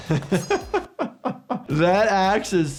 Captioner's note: doctor laughs